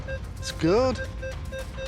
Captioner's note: metal detector beeping